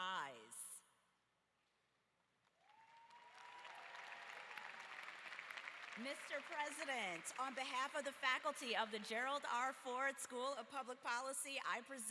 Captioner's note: applause